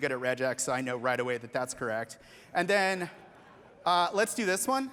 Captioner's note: laughter